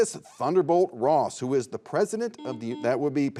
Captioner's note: buzzer buzzes